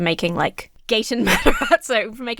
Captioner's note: laughs